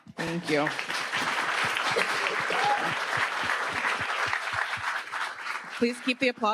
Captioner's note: attendees applauding